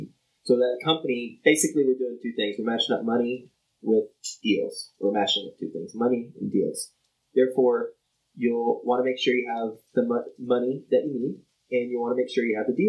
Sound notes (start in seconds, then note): none